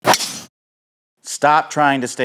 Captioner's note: ball cracking